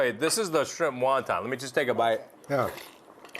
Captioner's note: slurps